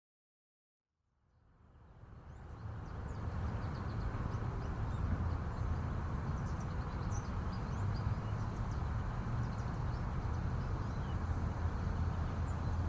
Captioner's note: ambient nature sounds, birds tweeting